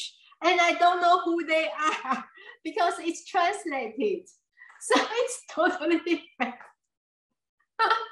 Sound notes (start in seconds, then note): 5.0 laughs